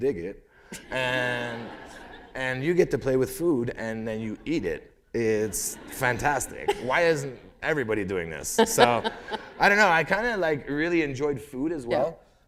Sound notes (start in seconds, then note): 0.7 laughter